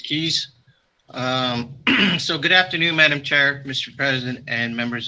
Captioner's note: clears throat